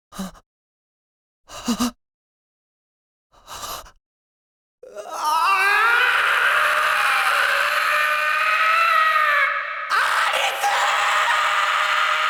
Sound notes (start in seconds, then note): 4.9 anguished scream